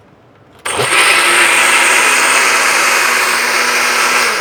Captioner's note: blender whirring